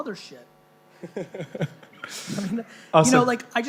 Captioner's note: laughing